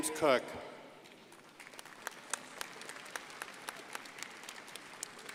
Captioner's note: crowd applauding